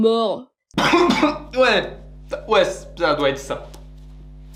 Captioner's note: coughs